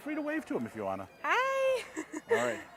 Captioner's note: laughing